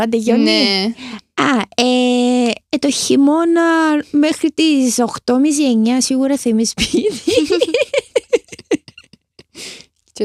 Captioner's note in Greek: γέλια